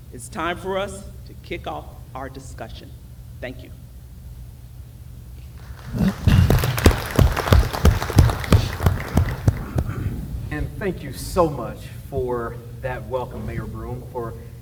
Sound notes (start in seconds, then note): 5.5 applause